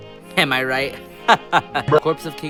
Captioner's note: a good laugh rudely interrupted by a BRUH